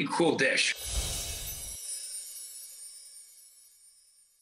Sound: air whooshes

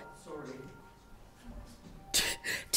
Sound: phone ringing

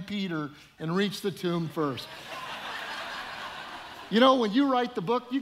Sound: audience laughing

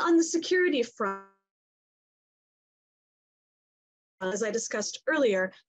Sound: audio goes off for a few seconds

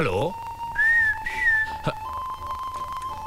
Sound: whistling

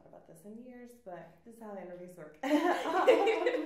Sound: laughs

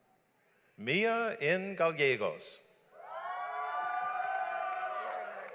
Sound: audience applauds

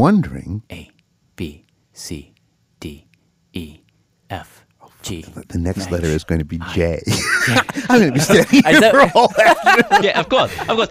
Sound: laughs

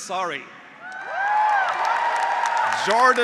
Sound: graduates cheering; graduates applauding

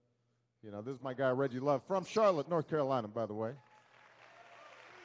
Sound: applause

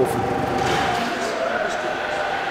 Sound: high machine tone

